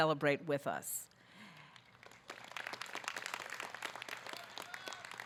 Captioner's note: audience clapping